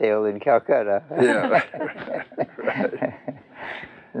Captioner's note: laughter